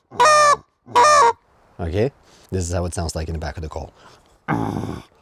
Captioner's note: geese honking